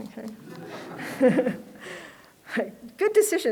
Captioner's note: laughter